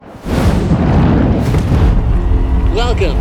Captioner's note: burbling; cheering